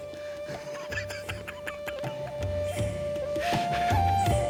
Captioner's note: laughing